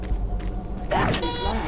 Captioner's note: suspenseful music; beeping